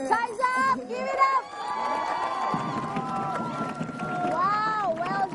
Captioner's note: cheering